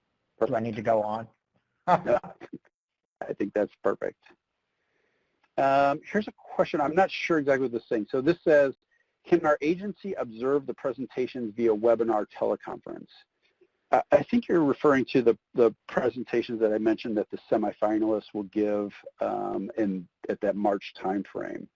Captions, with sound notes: Do I need to go on? [brief laughter]. >> I think that's perfect. Here's a question, I'm not sure exactly what is this saying. So this says, "Can our agency observe the presentations via webinar teleconference?" I think you're referring to the presentations that I mentioned that the semi-finalists will give in -- at that March timeframe.